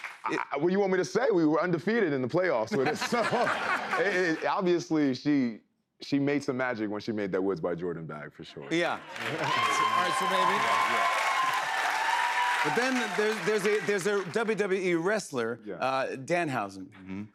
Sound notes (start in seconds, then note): 2.7 laughter; 8.7 cheers and applause